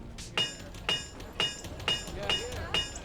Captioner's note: metal clanging